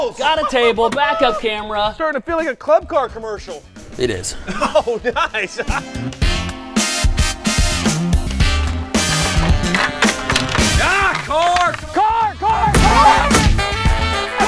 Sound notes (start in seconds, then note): 4.3 laughs